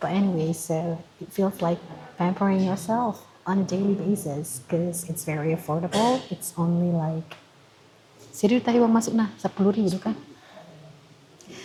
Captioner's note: speaking in Bataknese